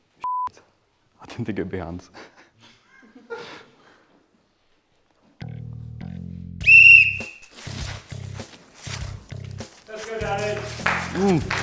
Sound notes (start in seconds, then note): 6.6 blows whistle; 9.7 cheers